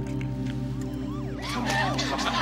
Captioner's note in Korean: 사이렌 소리